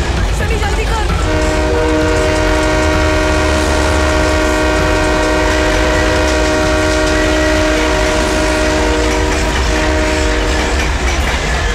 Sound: train horn blares

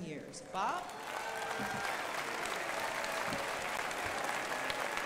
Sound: crowd applauding

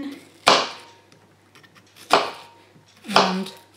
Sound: chopping

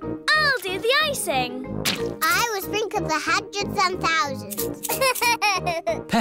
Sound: laughs

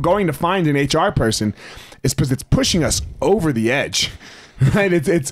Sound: chuckles

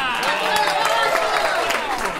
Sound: audience cheers and applause

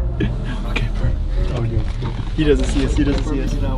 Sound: murmuring

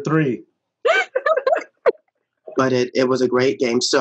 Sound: laughing

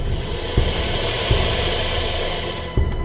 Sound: hisssss

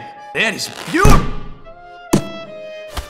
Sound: pop

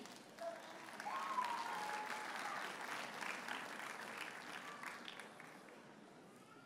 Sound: audience cheers and applauds

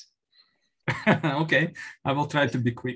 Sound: laughs

